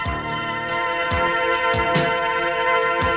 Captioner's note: none